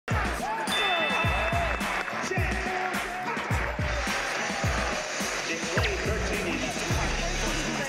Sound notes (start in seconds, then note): 0.1 sizzling heat and screaming fill the stadium